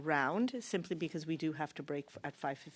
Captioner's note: speaking French